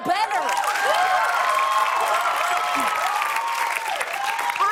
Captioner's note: cheers and applause